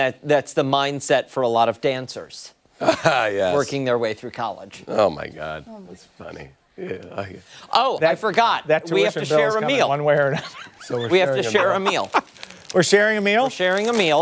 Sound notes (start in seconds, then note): 2.8 laughter